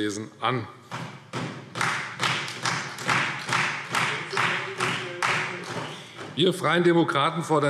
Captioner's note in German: Beifall Freie Demokraten